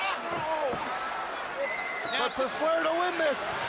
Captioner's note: crowd cheering